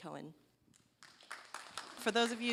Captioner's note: applause